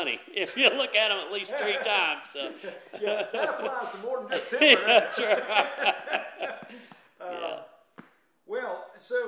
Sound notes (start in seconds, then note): 0.4 both laughing